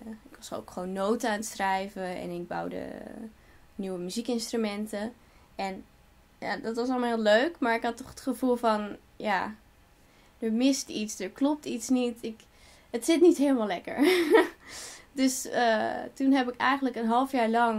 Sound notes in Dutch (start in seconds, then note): 14.4 lacht